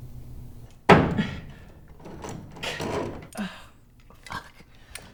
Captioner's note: thudding